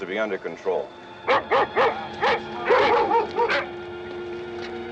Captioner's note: barking